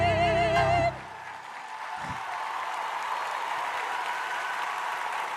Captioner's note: crowd cheering